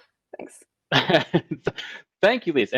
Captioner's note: laughing